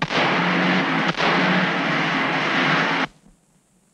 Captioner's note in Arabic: إطلاق نار خلفي من المركبة